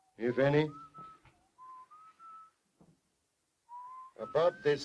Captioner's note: Harry whistles